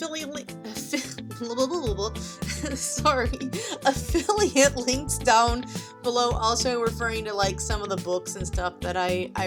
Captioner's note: laughing